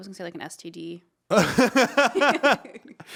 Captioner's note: all laughing